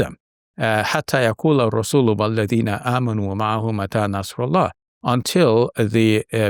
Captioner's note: speaks Arabic